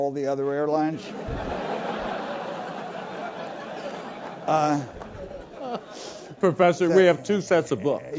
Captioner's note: laugh